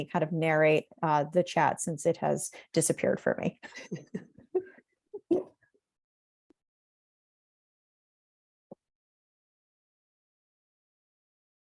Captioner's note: laughs